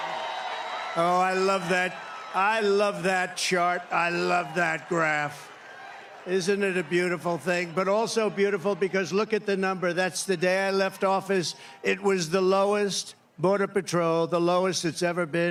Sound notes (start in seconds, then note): 0.0 cheering